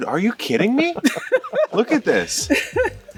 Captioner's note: laughing